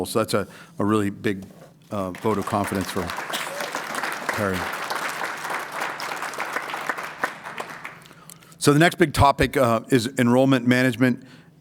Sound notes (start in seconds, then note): 4.8 applause